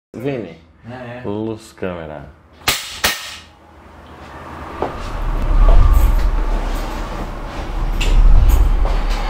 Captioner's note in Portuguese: clack! clack!